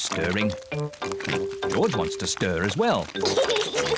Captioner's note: oinks; giggles